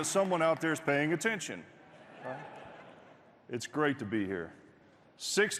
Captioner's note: cheers and applause